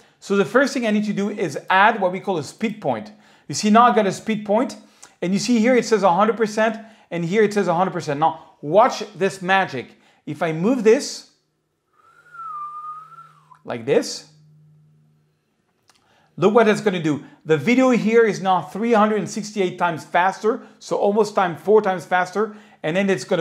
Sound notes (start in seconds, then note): 11.9 whistle blows